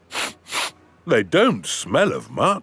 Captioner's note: sniffs